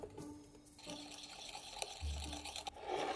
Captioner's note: whisking